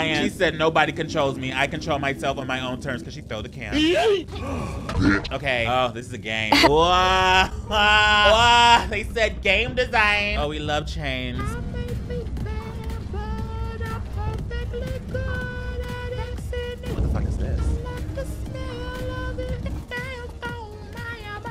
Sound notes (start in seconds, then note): 3.5 character groans; 6.5 woman laughs